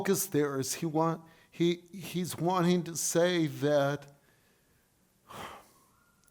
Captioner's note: sighs